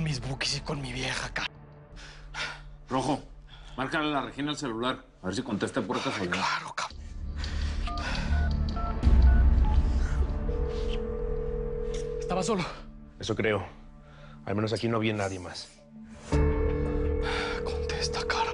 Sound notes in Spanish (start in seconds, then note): 9.0 Sonido al marcar